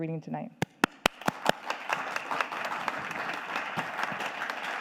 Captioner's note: audience applauding